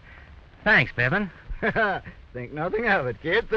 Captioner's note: chuckles